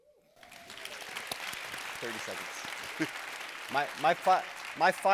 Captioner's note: audience applauding